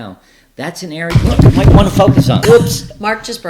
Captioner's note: chair crashing